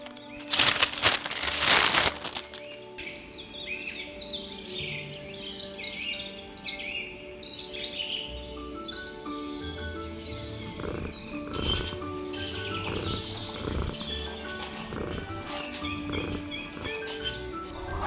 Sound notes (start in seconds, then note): 2.9 birds chirping; 10.5 Milo purring, pea gravel being walked on